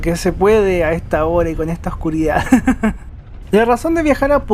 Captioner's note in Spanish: risas